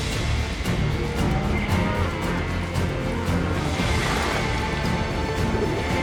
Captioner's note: cattle mooing